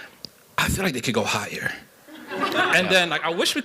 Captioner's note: laughter